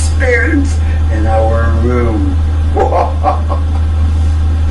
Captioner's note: cackling